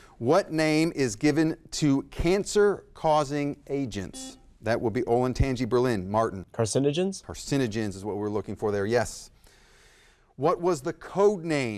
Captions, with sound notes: What name is given to cancer-causing agents? (buzzer blaring) That would be Olentangy Berlin, Martin. - Carcinogens? - Carcinogens is what we're looking for there, yes. What was the code name